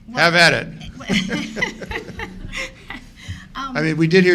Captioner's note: laughing